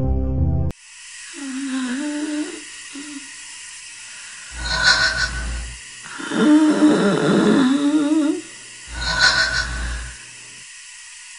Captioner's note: labored breathing